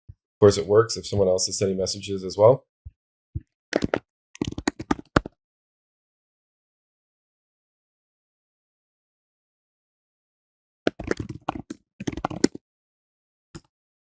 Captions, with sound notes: Of course, it works if someone else is sending messages as well. (keyboard typing) (keyboard typing)